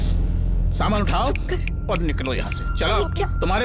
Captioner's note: Snaps finger